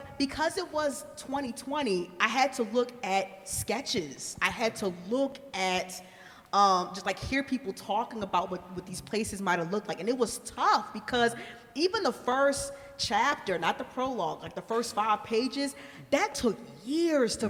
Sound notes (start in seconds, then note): none